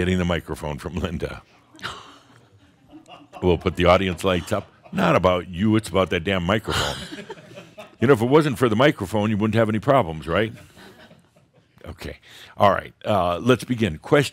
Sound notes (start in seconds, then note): 1.3 a few chuckles; 6.6 more chuckles